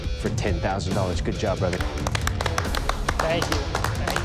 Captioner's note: applause